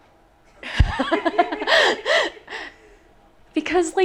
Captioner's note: laughing